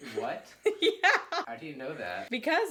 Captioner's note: laughs